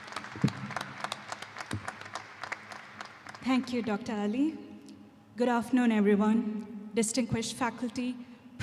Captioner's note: applause